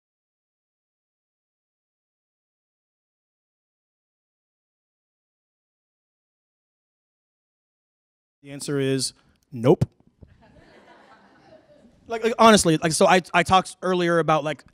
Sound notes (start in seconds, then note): 10.3 laughter